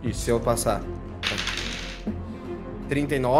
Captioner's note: dice sound